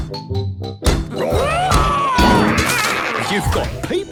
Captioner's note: all roaring